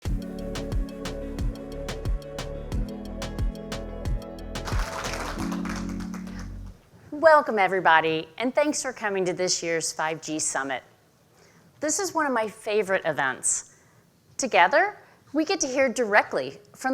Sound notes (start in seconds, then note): 0.0 upbeat music; 4.5 audience applauding